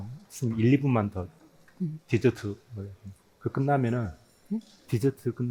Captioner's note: both speaking in foreign language